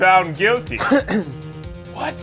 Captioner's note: clears throat